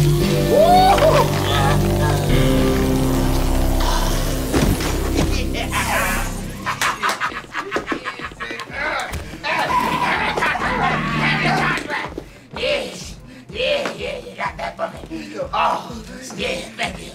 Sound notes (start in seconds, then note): 4.5 thuds; 5.4 laughing; 6.5 laughter